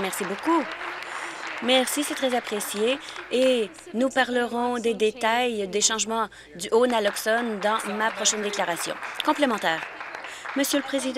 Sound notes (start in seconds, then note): 0.0 applause